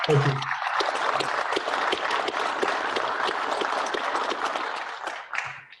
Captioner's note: clapping